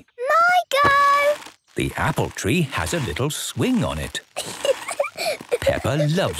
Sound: giggling

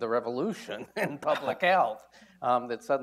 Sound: laughs

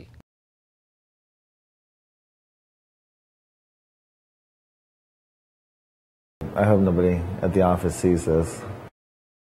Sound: long pause

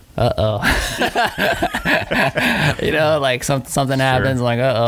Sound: laughing

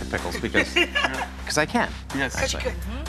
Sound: giggles

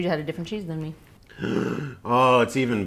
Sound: gasp

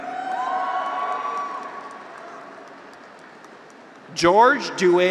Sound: graduates cheer; audience applauds

